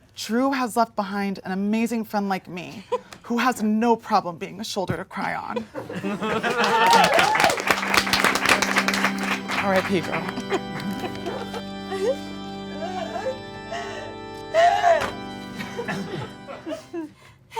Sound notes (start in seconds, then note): 5.9 audience laughing and applauding; 12.7 cries dramatically